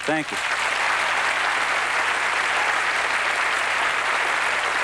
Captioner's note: applause